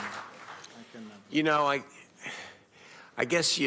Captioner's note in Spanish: aplausos